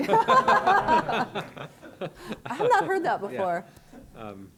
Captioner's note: laughter